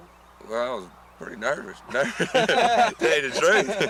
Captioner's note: laughter